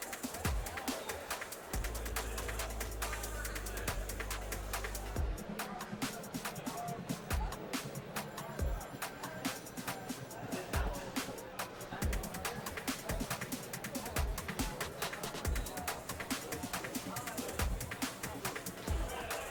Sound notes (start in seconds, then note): 13.2 people chattering; 15.9 upbeat music